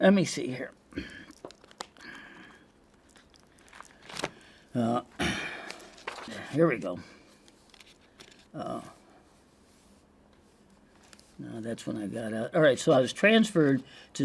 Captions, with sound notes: Let me see here. (paper flapping) Oh, here we go. Oh. No, that's when I got out. All right, so I was transferred